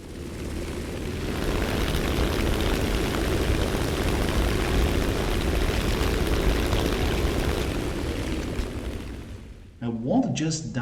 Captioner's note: aircraft Engines ,Gunfire, Flying Sounds